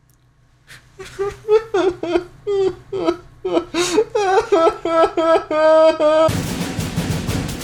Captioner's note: crying noises